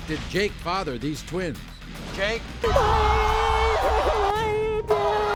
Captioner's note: crying